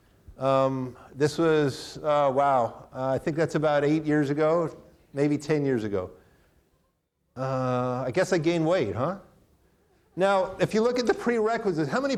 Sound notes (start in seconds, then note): none